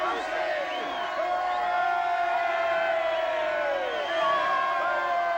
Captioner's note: voices cheering